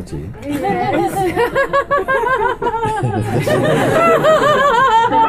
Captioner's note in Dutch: meer gelach